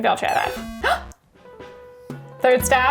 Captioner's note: gasping